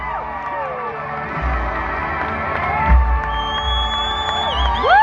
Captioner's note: crowd cheering